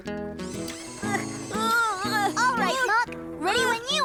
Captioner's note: grunting